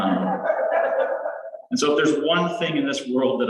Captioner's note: laughter